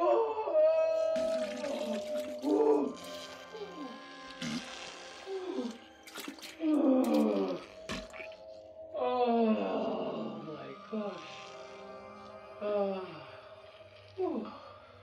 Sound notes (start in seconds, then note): 0.2 splashing; 0.2 yelling; 4.8 farting; 4.8 groaning; 11.1 sighing